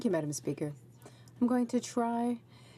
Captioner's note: speaking French